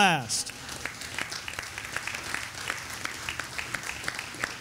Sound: audience applauding

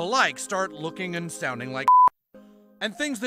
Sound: beep

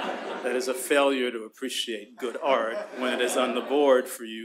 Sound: laughter; laughter

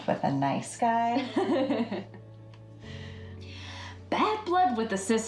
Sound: Debbie laughs

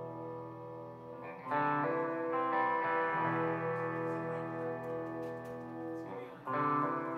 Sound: background Chatter

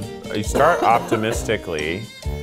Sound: coughing

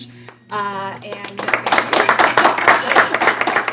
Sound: applaud

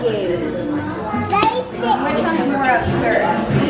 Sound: babytalk

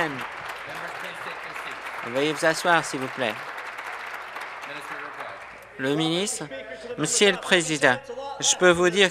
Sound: applause

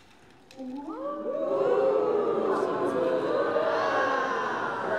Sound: crowd cheering

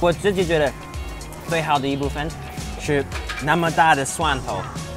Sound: speaking Chinese

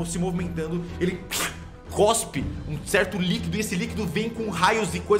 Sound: spitting sound

